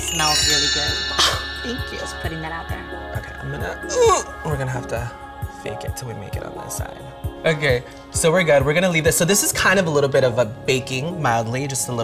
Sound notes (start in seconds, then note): 0.0 bell dings; 1.2 laughs; 3.9 grunts